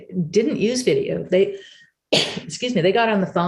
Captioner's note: sneezes